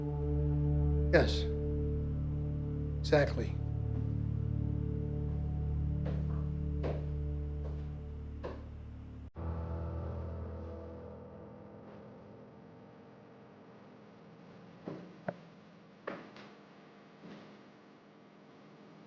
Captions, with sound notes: (menacing music) - Yes, exactly. (footsteps thudding) (gentle suspenseful music)